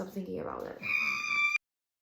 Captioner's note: supportive squeal